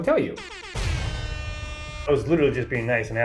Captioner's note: loud bang; pop